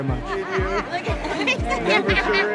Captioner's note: laughing